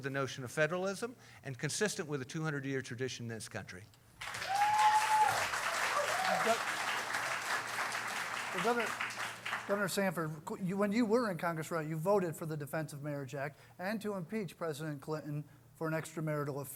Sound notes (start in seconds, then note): 4.2 applause